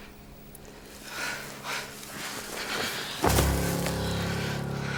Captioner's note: Ura sighs and stands up